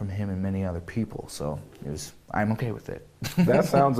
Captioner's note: laughter